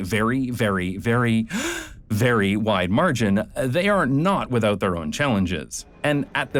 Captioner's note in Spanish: inhala profundo